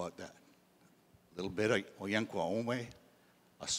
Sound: in Indigenous language

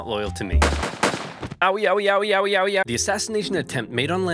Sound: Gunshots and Linen crying out

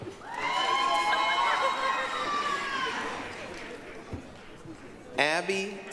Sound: applause, cheering

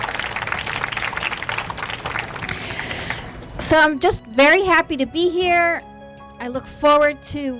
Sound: applause

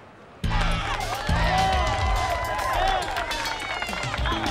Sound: cheering, whooping, applause and chatter

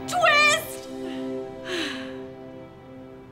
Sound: sighs

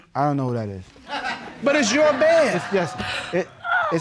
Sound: audience laughing

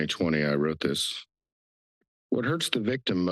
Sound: pause

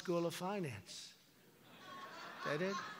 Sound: laughter

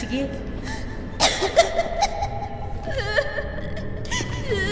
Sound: voice cough and cries

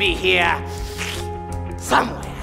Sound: sniffs loudly

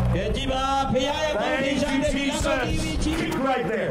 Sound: speaking native language

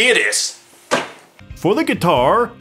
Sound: table slam

